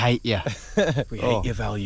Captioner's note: chuckling